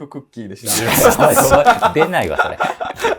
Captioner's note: laughing